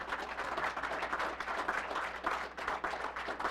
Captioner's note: applause